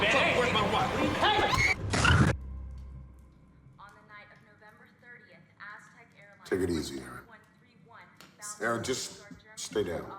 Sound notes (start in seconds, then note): 2.0 Molly screams